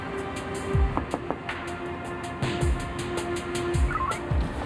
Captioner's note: banging on window